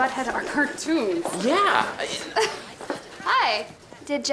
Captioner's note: laughs